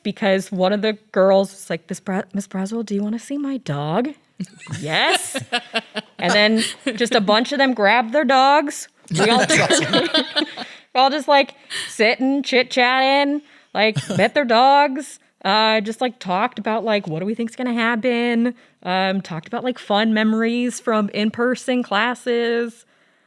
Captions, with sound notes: because one of the girls was like "Ms. Braswell, do you wanna see my dog?" Yes, and then just a bunch of them grab their dogs. (laughs) - Well, just like sitting and chitchatting, like met their dogs, just talked about what do we think gonna happen? Talked about like fun memories from, in-person classes.